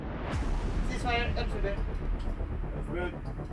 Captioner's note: radio Voice